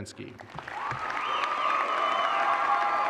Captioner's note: applause and cheers